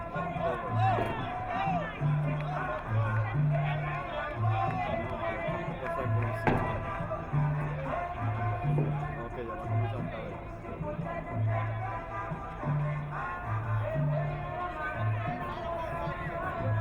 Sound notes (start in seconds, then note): 10.1 crowd member muttering; 14.2 Latin music